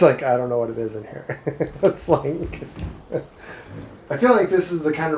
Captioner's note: laughs